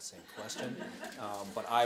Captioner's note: laughter